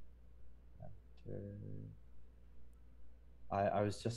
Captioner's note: voice muffling